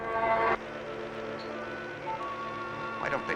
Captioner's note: buzzing